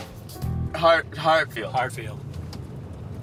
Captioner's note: horn honks